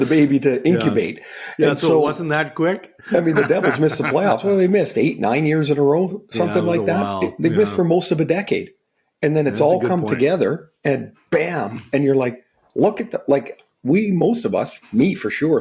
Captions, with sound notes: - the baby to incubate. - So it wasn't that quick? - I mean, The Devils missed the playoffs. Well, they missed eight, nine years in a row, something like that. - (speaks faintly), yeah. - They missed for most of the decade. And then-- - That's a good point. - it's all come together, and bam. And you're like, "Look at the... Most of us, me for sure thought it-